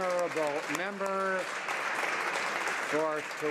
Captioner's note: some Applause